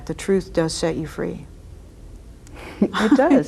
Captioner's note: laughs